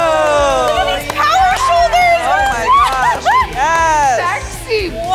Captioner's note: audience applauds; upbeat music; laughs